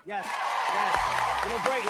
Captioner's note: audience cheering